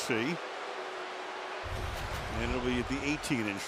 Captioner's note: swoosh